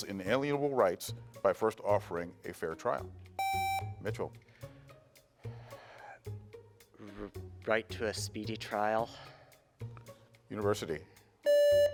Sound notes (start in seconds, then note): 3.4 buzzer beeps